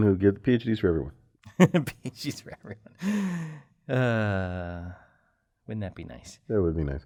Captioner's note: laugh